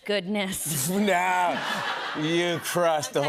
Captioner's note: laughter